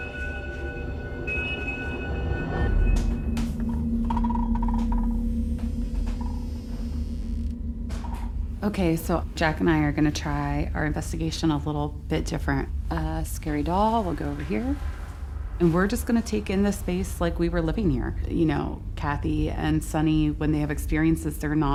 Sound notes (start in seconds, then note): 5.7 door creaks